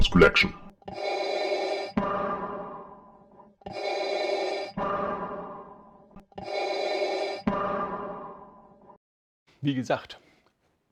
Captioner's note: Darth Vader breathing sounds